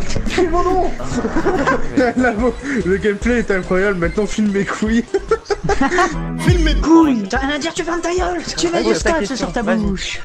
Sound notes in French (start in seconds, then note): 1.0 rires